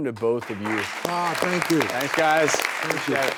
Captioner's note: clapping